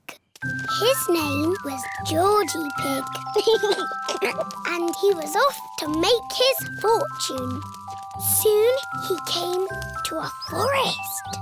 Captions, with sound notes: His name was Georgie Pig. (GIGGLES) And he was off to make his fortune. Soon he came to a forest.